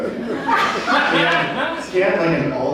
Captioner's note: audience laughs